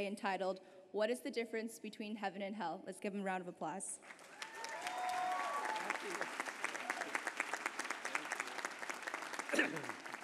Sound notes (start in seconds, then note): 4.0 applause